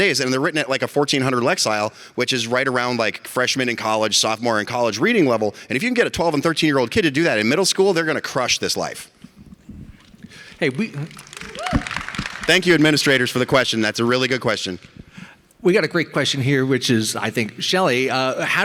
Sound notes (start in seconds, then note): 10.6 audience applause